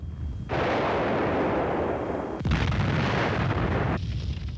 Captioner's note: explosions booming